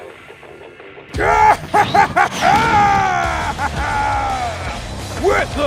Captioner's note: jovial laughter